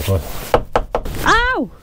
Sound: knocking

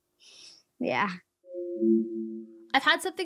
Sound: beeping

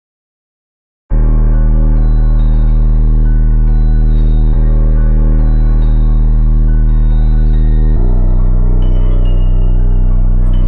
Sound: chilling sound

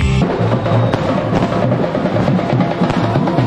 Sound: suddenly there is a loud noise outside

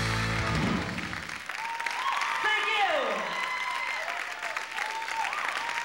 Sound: audience cheering

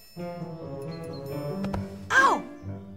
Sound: thud

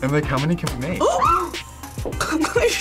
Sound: both gasp

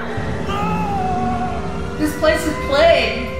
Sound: screams; yells

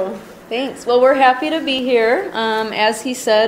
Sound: voiceover

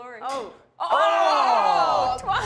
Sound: shouting

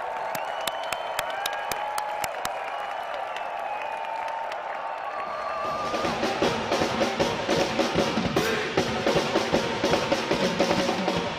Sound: cheering and applause

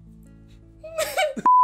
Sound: laughs

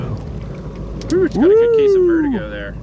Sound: chattering

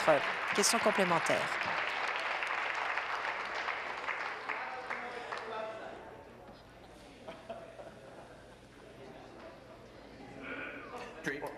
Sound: applause

